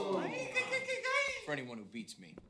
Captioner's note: ooh-ing